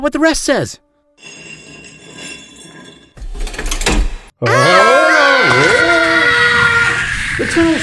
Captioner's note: button pressed, trap door opens; sliding, screaming